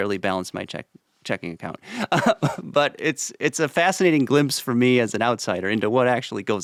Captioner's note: chuckles